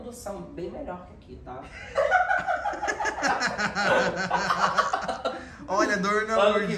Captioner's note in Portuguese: risos